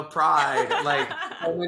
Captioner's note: laughs